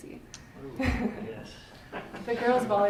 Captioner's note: laughter